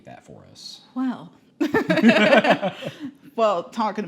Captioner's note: laughs